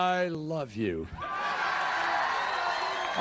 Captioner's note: applause